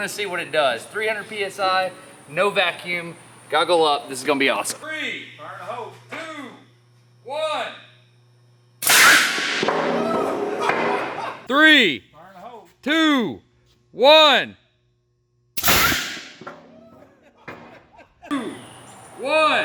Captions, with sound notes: We're gonna see what it does. 300 PSI, no vacuum. Goggle up, this is gonna be awesome. - Three. - Fire in the hole. - Two, one. [cannon fires] [laughs loudly] - Three. - Fire in the hole. - Two, one. [cannon fires] [laughs loudly] Two, one.